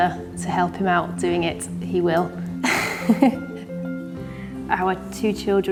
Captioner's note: chuckles softly